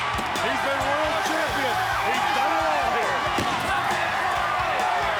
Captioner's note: crowd cheering